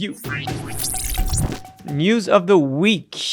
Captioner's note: electronic beeping